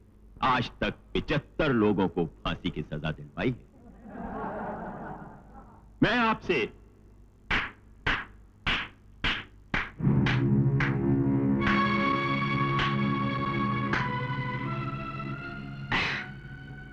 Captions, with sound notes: I've got seventy-five people hanged to death. (Laughs) I will.. (Applauding) (Chuckles)